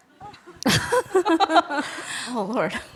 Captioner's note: both chuckling